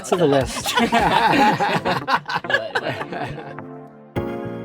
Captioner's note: all laughing; bright music